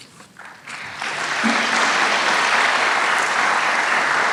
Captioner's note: applause